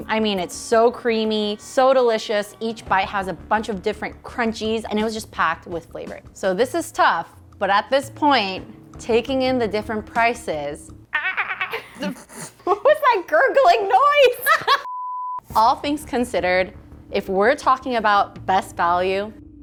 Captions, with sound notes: I mean, it's so creamy, so delicious. Each bite has a bunch of different crunchies, and it was just packed with flavor. So this is tough, but at this point, taking in the different prices... - Ahh! What was that gurgling noise? (screen beeps) - All things considered, if we're talking about best value,